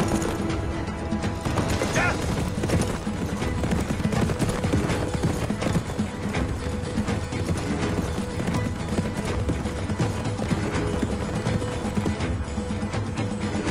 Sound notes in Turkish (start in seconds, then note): 3.0 Nal sesleri; 12.7 Fon müziği